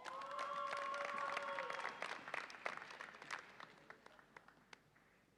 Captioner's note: audience applauds and cheers